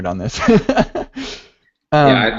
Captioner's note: laughs